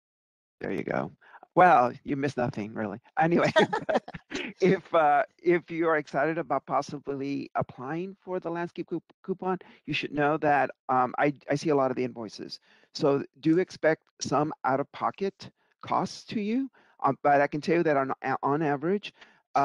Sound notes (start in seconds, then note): 3.2 laughing